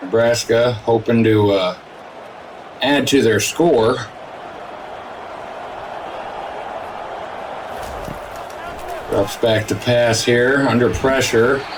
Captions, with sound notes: Nebraska hoping to add to their score. (crowd cheering) - Ruffs back to pass here under pressure.